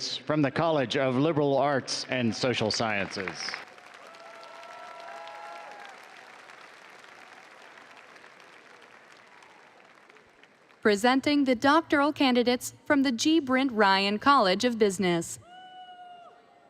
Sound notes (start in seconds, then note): 4.7 audience applauding and cheering